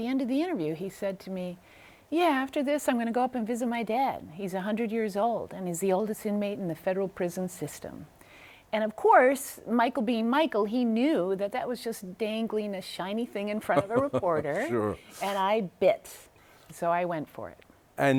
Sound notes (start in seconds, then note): 13.6 laughs